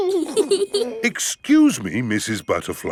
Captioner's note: both giggling